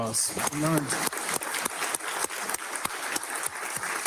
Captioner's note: audience clapping